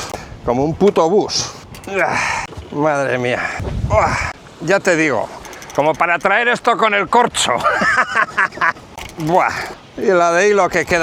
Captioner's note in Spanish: risas